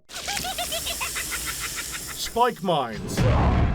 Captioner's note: Cryptkeeper's evil laugh